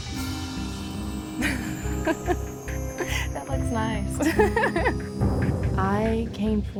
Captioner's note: laughing